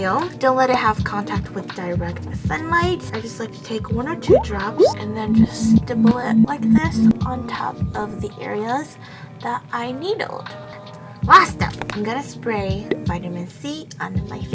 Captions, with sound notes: Don't let it have contact with direct sunlight I just like to take one or two drops and then just a more like mess on top of the areas that I needled *drop sound effect* Last up. I'm gonna spray vitamin C on me face ˏ₍•ɞ•₎ˎ